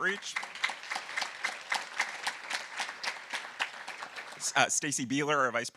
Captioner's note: audience applauding